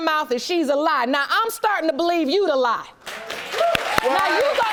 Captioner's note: audience applauding